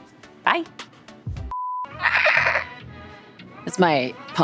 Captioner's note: beep